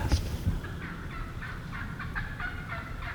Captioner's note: turkey’s chirping